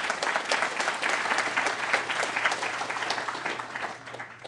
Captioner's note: applause